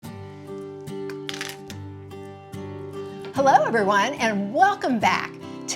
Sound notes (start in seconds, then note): 0.0 light acoustic folk music; 1.2 chocolate pieces rattling